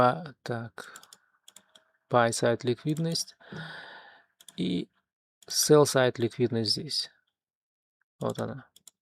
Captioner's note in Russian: тяжело вздыхает; вздыхает